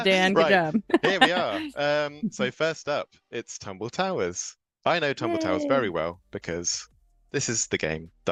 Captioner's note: laugh